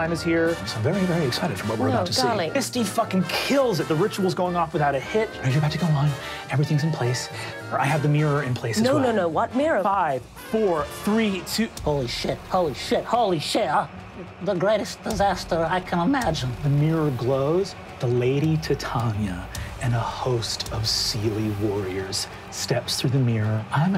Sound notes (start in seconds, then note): 2.8 murmurs